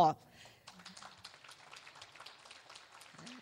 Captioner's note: clapping